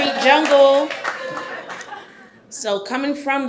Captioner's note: scattered applause